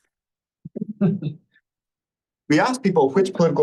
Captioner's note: laughter